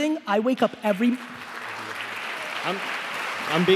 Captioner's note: applauding